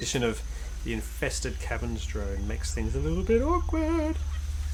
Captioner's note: drone